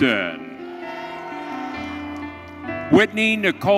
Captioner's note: audience cheering